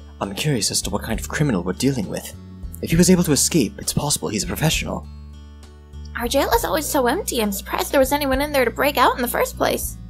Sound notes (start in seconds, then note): none